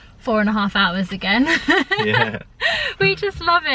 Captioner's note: laughing